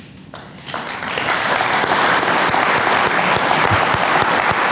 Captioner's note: audience applauding